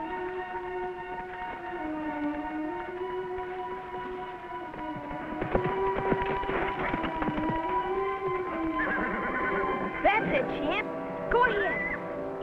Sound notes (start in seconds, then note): 8.5 horse neighing